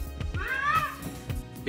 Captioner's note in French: Miaaaou!